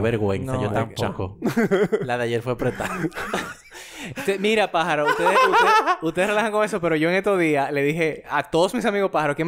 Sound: laughs

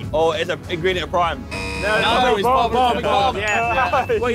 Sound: buzzer buzzes; bell dings

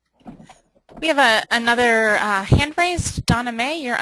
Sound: voiceover

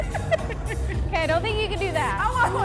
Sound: laughs

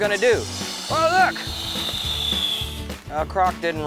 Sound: firework whooshes

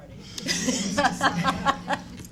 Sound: laughing

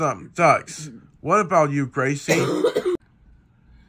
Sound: Gracie coughs

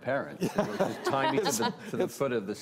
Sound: panel members laugh

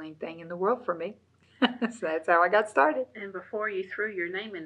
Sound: laughs

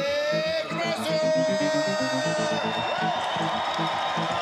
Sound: cheering and Applause

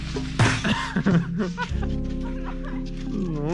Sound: laughing

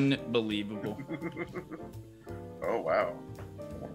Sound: laugh

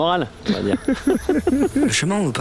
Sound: laughs

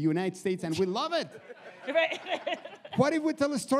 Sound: audience laughs

